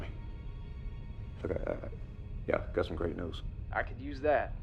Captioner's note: stutters